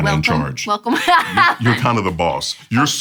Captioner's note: laughing